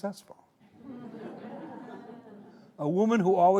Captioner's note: audience laughing